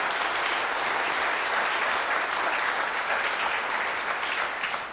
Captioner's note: applause